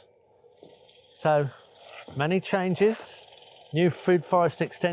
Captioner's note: drill whirring